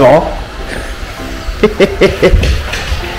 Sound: laughs

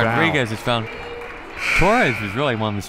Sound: buzzer

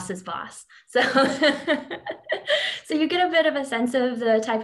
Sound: laughs

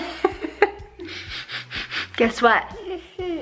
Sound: laughs; sniffing

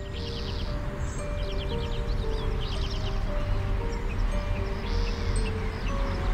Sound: birds chirping; mysterious music continues

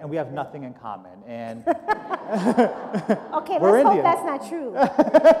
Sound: laughter

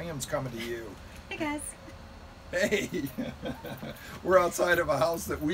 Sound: giggling

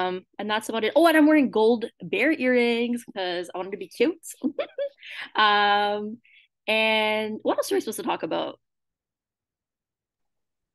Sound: giggles

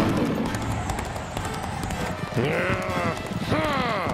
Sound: growl

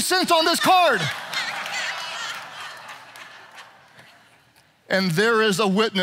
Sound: audience laughs

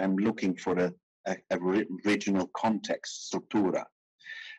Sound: speaking in foreign language

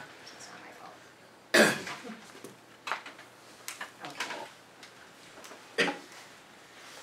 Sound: cough

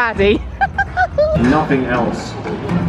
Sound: giggling

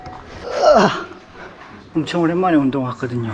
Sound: groans

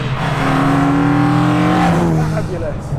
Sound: engine revving

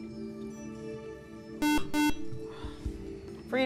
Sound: buzzer

